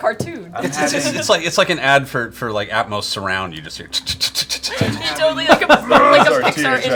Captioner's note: ticking noises